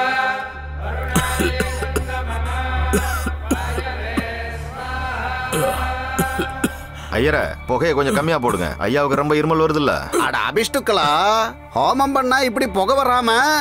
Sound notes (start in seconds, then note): 1.0 coughs